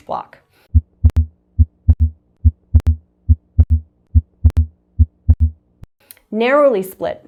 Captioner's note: heart beating